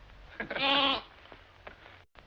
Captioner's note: laughing; bleating